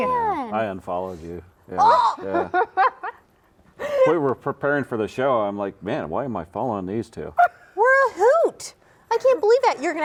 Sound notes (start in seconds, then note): 2.4 laughs